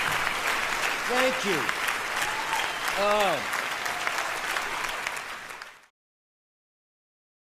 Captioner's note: cheers